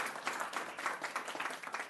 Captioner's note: applause